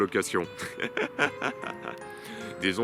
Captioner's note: laughs